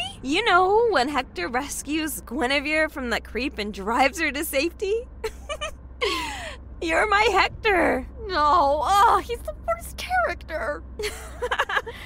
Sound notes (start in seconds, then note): 5.2 laughing; 6.0 sighing